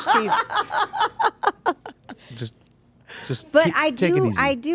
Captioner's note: laughing